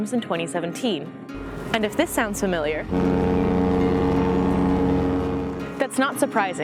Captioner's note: cruise ship horn